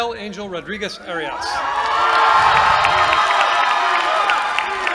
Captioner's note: cheering